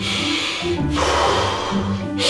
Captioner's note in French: Respiration